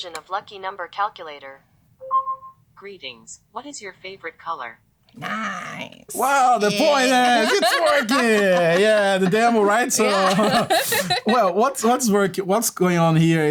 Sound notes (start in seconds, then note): 6.6 laughter